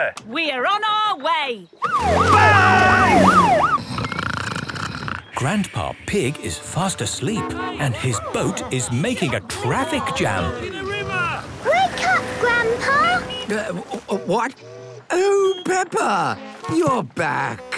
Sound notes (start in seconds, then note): 1.8 siren wailing; 3.7 snoring; 10.7 all shouting